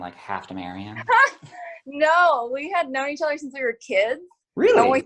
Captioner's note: laughs